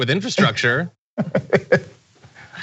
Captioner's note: laugh